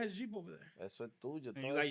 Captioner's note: speaking In Foreign Language